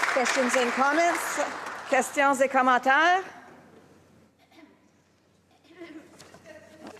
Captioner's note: applause